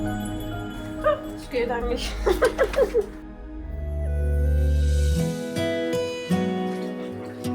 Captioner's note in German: gelächter